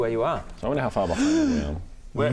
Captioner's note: gasp of wonder